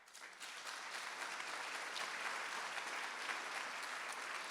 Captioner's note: audience applauding